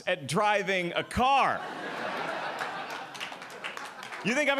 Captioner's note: audience Laughing